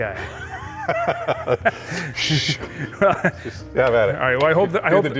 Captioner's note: laughs